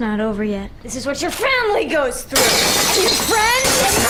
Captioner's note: glass shatters